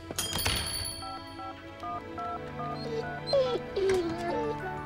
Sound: dialing the telephone

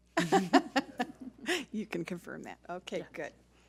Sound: laughs

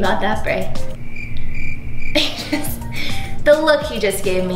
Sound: cricket chirping

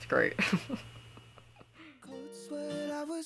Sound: laughter

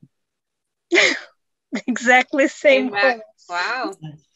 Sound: laughs

